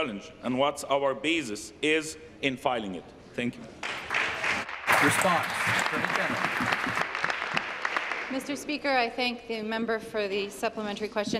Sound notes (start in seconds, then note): 8.7 applause